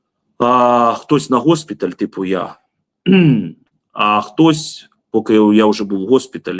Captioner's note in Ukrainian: прочищення горла